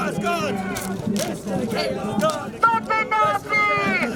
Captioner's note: chanting